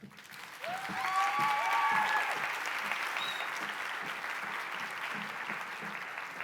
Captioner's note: audience cheers and applauds